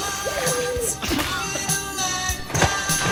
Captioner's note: dying and death noises; drowning noises; splashes